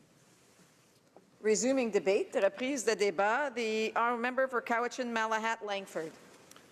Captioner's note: speaking French